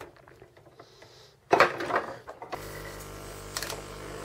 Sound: compressor quietly runs

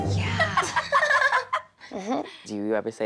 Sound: laughing

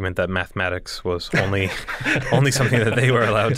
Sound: laughter

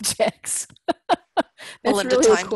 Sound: laugh

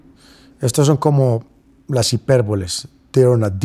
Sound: speaking spanish

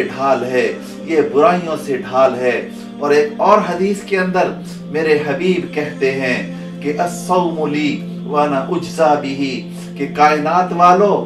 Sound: Arabic

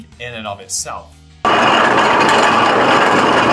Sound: steam engine driving

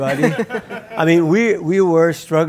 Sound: audience laughs

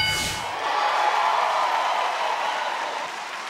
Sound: applause

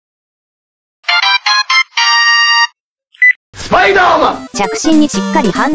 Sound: telephone ringtone

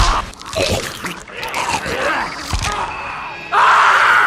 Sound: man choking on blood; Gingerbread Man screams

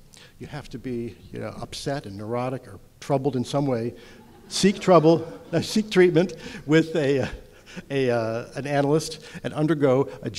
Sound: audience laughter

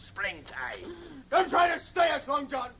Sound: none

